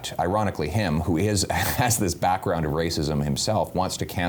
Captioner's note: giggles